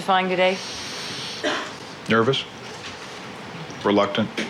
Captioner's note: background cough